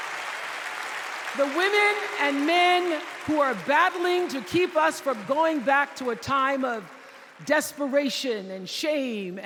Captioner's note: applause